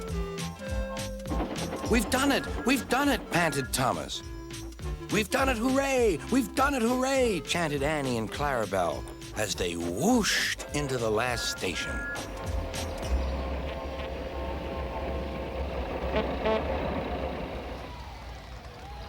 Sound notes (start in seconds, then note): 12.8 whistles; 13.4 honking; 17.2 people cheering